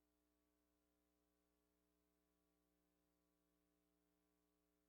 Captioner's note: none